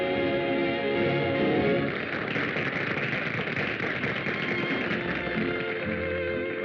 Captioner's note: singing; applause